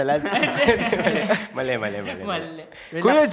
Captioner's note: laughing